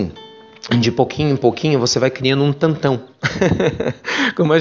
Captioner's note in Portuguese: risos